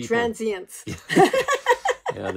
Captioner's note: laughing